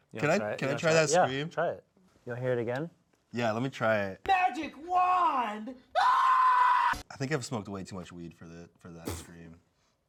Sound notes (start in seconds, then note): 6.0 screams